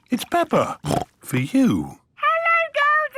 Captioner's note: snorts